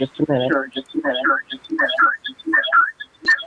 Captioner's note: call echoes